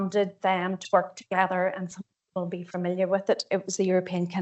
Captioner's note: audio distorts 31.51; audio distorts 31.57